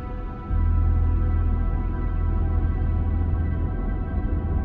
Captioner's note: ocean droning